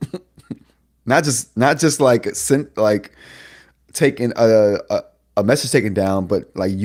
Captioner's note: laughs